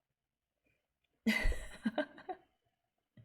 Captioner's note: laughs